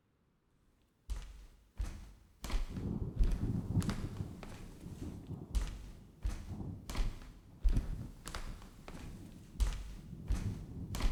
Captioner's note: listener walking down hotel hall barefoot fx, thunder rumbling fx